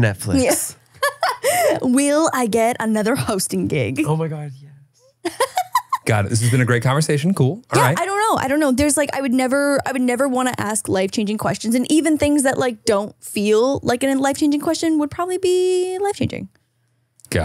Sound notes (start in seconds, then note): 1.0 laughs; 5.2 laughing